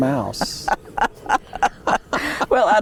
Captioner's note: laughter